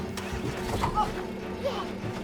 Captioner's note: van engine revving